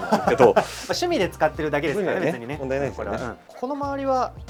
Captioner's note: laughs; laughs